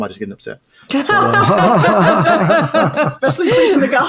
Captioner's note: laughing